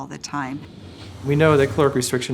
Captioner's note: whooshing